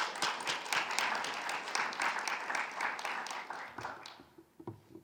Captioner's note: everyone applauding